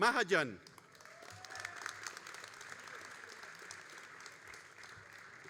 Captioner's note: all applauding